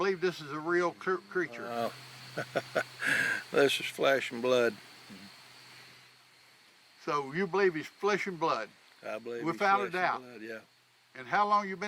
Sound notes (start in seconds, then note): 2.3 chuckles